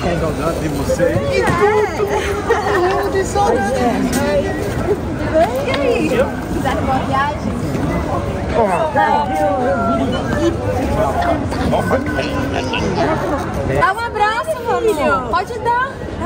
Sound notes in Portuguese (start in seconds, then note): 0.1 falatório; 9.8 falatório